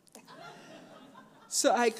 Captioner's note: audience laughs